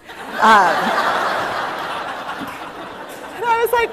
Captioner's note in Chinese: 笑聲